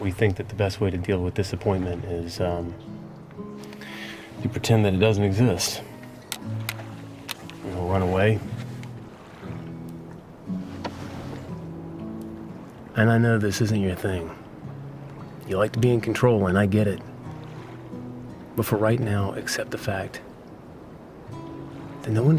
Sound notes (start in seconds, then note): 7.1 sunglasses clattering